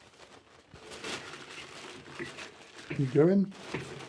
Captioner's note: bag rustling, crinkling